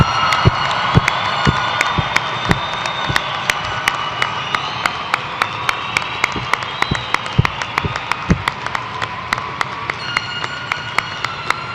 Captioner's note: cheers and applause